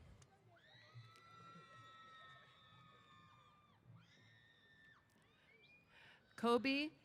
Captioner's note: cheers